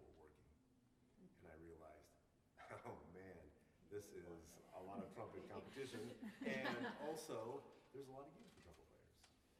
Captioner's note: laughter